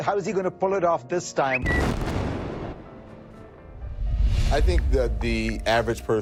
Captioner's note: explosion booming